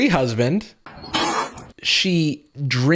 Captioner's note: spitting